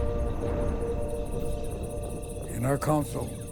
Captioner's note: crickets chirp